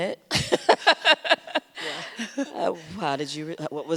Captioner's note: laughs